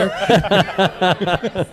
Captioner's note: laughter